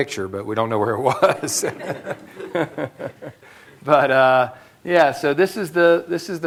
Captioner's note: laughter